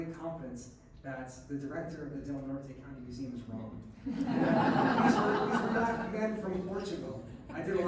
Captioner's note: laughs